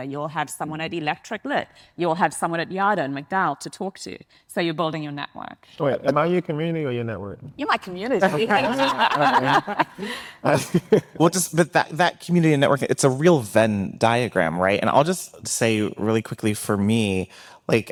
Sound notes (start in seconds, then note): 8.2 group laughing